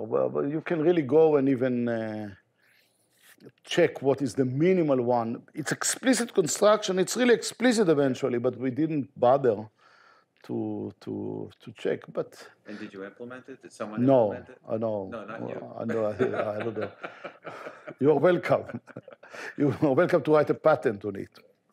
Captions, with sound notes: Well, you can really go and even check what is the minimal one, it's explicit construction. It's really explicit eventually. But we didn't bother to check, but... - And did you implement it? Did someone implement it? - No, no. - Not you. (chuckles) - You are welcome, you welcome to write a pattern on it.